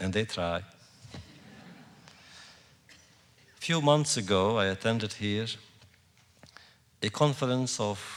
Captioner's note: laughter